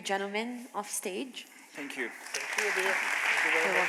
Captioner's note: applause